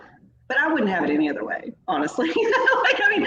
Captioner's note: laughs